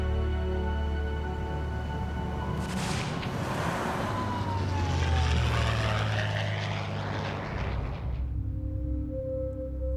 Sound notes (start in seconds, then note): 2.4 falling artillery whining; 2.6 artillery fire echoes; 2.9 airplane engine humming; 7.3 solemn music plays